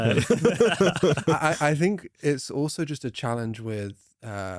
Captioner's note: laughs